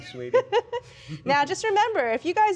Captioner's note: laughs